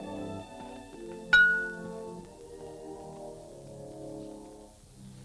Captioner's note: glass clinks